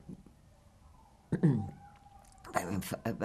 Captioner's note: clears throat